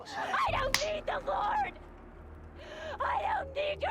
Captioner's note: slap